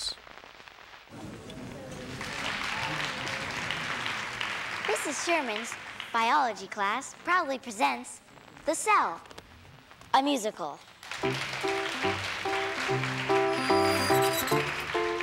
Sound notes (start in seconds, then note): 1.5 cheers and applause; 11.2 mid-tempo music plays